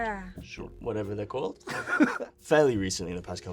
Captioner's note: laughing